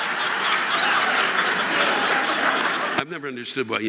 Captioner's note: audience laughing